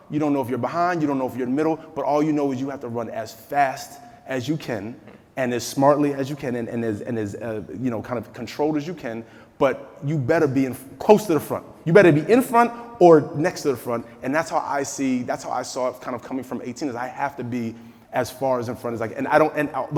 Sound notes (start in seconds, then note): none